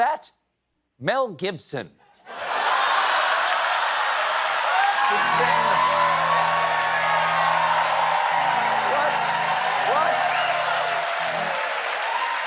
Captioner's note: cheers and applause